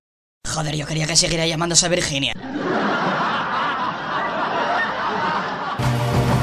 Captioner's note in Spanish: risas